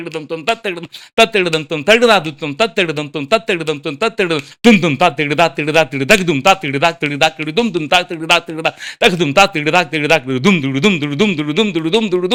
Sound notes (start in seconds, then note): 0.0 vocalizing complex drum beats continues